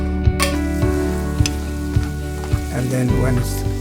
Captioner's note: gentle music; pan frying